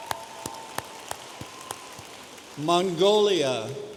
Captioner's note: audience applauding